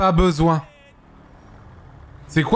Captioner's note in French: PNJ crie